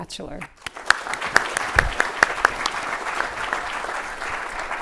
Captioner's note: audience applauds